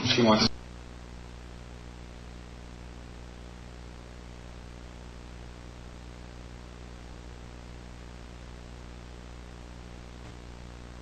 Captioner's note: static